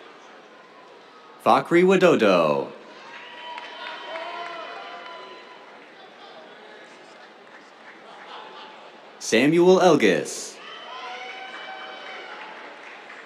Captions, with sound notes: Fakhri Widodo. [CHEERS, APPLAUSE] Samuel Ellgass. [CHEERS, APPLAUSE]